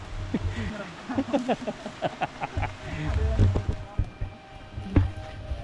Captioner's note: laughs